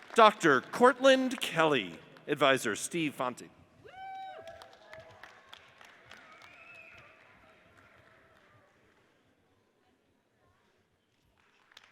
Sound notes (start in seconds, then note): 3.9 audience cheers and applauds